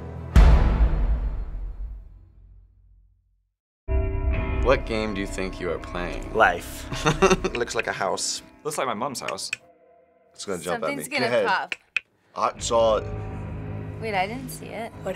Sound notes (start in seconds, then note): 6.8 laughs